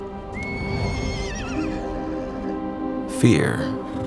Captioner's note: horse whinnies